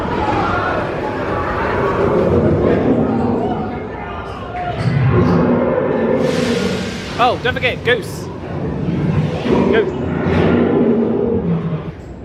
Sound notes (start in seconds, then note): 4.7 growling